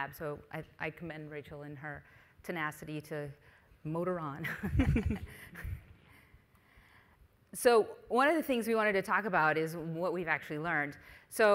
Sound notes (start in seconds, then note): 4.5 both chuckles